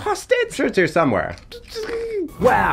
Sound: INFJ moans

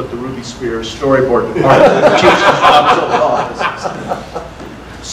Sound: audience laughter

